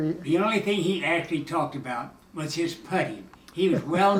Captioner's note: chuckling